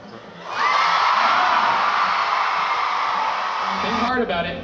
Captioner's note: audience cheering